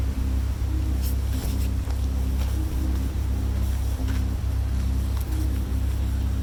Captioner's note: suspenseful music continues; wind blows